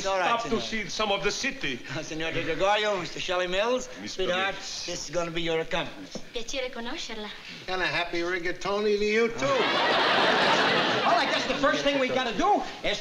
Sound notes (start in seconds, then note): 1.6 italian; 6.3 speaking italian